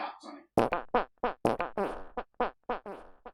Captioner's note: funny running sound effect